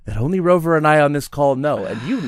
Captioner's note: sighs